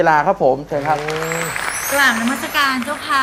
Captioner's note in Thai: เสียงปรบมือ